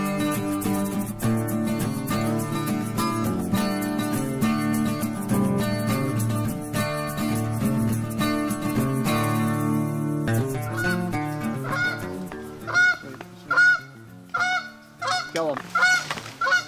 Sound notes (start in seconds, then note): 8.5 geese honking; 14.0 geese honking